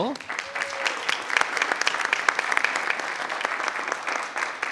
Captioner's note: group applauds